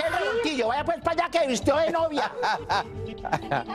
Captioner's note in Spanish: risas